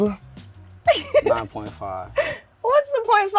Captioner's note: laughs